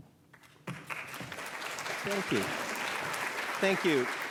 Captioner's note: audience claps